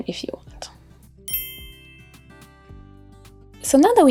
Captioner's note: bell chiming